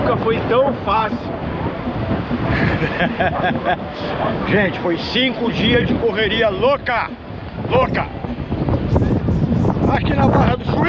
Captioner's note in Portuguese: risadas